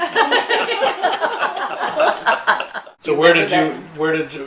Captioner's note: laughing